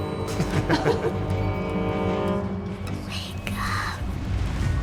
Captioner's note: Abby and Max laughing